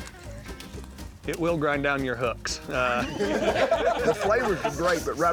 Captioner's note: laughter